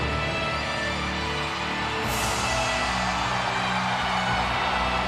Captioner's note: audience cheers